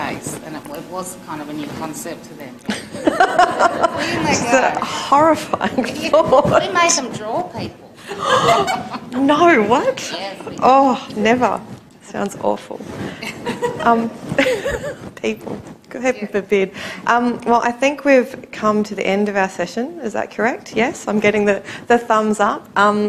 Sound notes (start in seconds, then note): 2.7 laughter; 8.1 gasp, laughter; 13.2 laughter